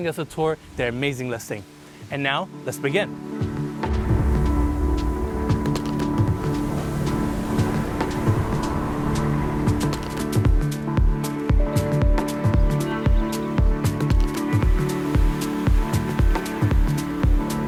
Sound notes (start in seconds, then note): 3.9 relaxed music; 6.5 waves crashing; 12.2 birds chirping; 13.5 water burbling